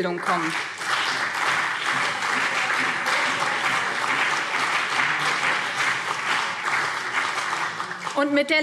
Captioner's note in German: Beifall BÜNDNIS 90/DIE GRÜNEN und CDU